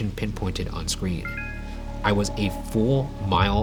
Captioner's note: phone pinging